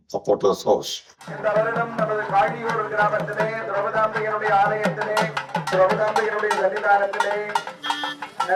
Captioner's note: announcement on the loud speaker from the temple